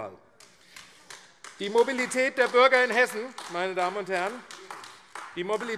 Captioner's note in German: Beifall AfD